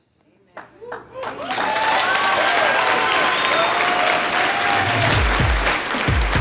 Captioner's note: audience applause